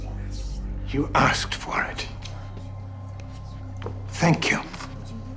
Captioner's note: audience murmuring